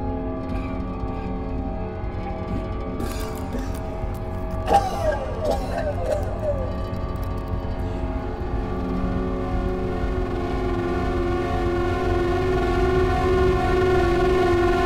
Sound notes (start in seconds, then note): 0.8 coughs; 7.6 creepy music